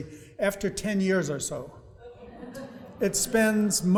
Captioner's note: audience laughing